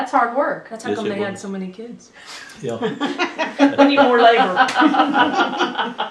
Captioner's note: laughter